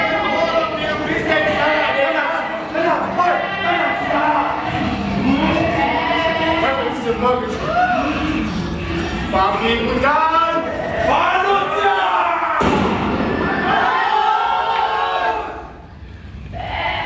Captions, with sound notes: Why are you making so much noise in here? My wife is trying to sleep! Stay calm, comrades! Heavens to Murgatroyd! A wild boar! Human! [ Gunshot ] Markus ... !